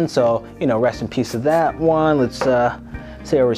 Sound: can spraying

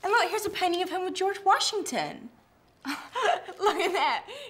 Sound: laughs

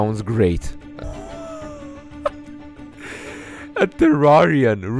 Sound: A rather stupid sounding laugh

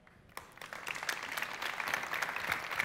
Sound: applause

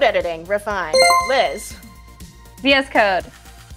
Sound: chime rings

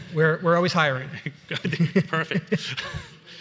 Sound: laughs

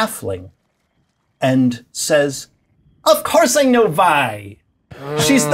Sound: bright voice

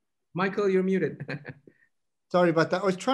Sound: laughing

